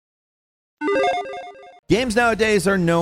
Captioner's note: electronic chiming